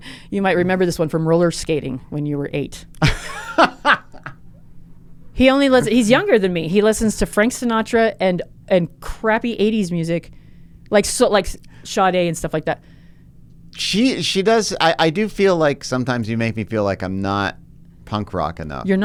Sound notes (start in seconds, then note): 3.0 laughs